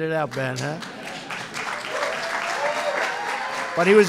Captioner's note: applause